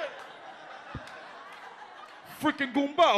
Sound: audience laughs

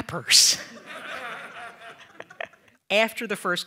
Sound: audience laughing

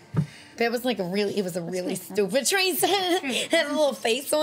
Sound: laughs

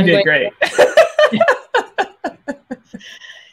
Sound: laughs

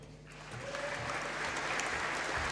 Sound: applause

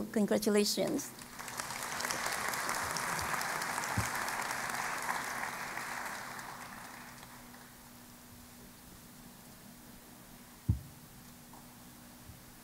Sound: applause

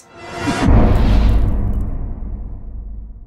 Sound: impact

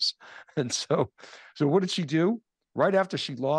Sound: chuckles

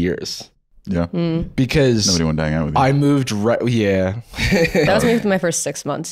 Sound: laughs

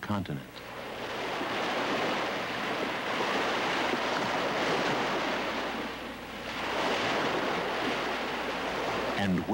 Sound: ocean Waves Crashing

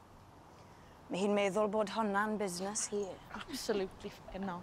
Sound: in Welsh

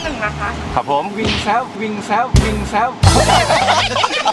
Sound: southern accent

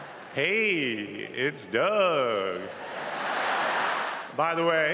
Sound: laughter

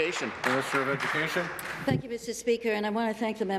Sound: applause

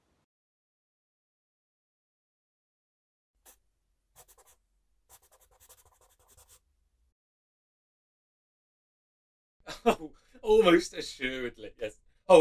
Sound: sound of pencil scratching onto paper

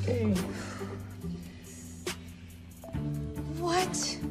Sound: exhales

